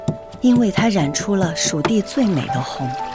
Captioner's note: grinding and mixing